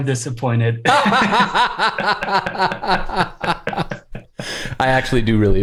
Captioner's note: laughter